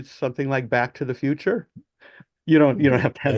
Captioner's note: laughs